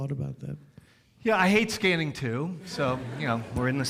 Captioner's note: audience laughs